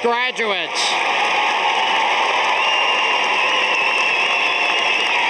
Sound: audience applauding

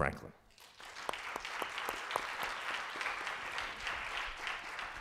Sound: audience applauding

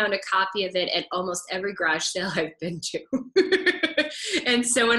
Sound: laughs

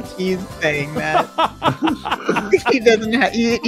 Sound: laughs

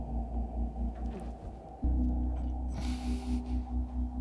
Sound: Oliver choking

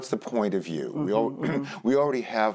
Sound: clears throat

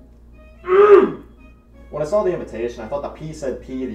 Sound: man with Mirror grunts

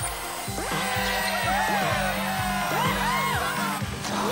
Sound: crowd cheering

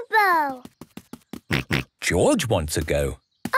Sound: snorts

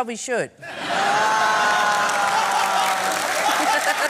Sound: laughter and applause

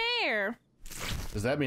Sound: cloth rip

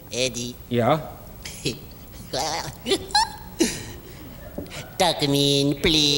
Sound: giggles

